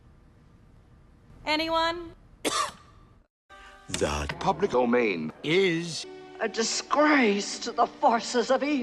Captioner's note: cough